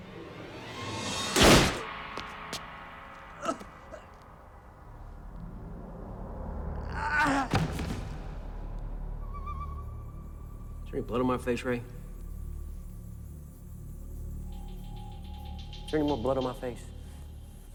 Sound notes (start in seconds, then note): 0.1 tense music; 1.3 gunshot bangs; 1.4 Pablo groans; 14.2 ominous music